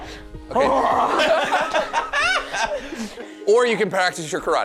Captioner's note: all laughing